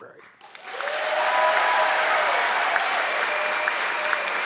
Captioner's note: audience clapping